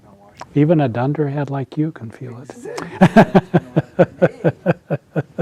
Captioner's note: laughs